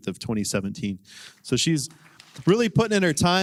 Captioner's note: applause